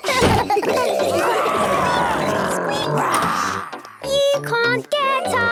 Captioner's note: giggling; growls, snorts